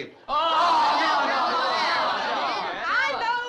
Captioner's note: crowd groaning